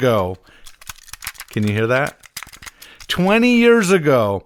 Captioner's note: tape tinkling